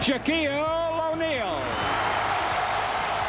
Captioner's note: cheering